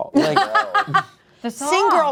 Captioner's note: laughs